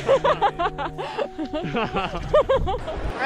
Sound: laughing

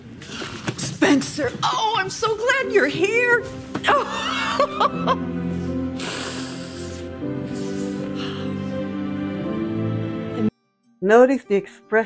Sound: laughs

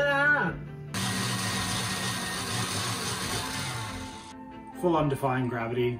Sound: mixer whirring

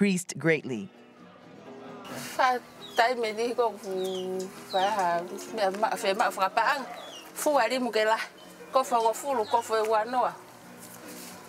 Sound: foreign Language

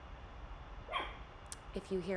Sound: Lola barking

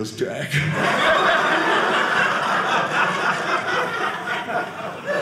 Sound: audience laughing

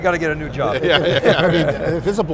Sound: laughs

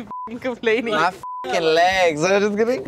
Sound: beep

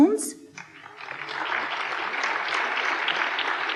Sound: applause

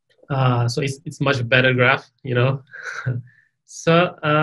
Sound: chuckles

